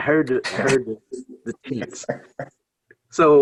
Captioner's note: laughs